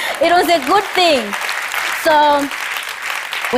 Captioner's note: applause